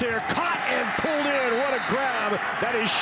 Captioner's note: fans cheer